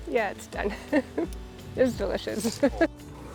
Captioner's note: herbs crunching